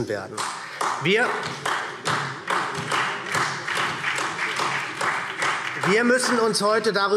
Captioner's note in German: Beifall SPD